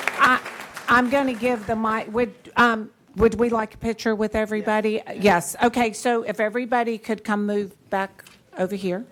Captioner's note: applause